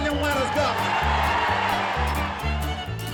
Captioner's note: applause